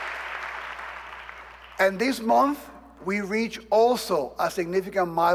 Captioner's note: applause